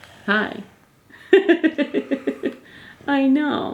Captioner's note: laughing